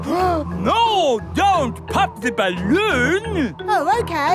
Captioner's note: gasps